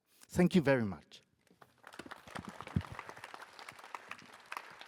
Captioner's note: applause